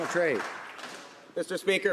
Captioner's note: some Applause